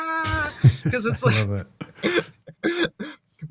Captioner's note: laughing